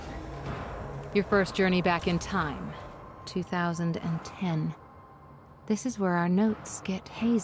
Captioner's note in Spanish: audio del juego